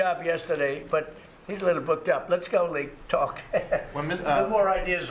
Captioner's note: laughter